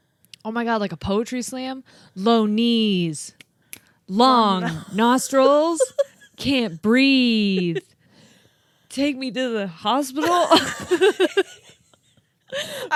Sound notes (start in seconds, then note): 3.3 snaps fingers; 10.2 laugh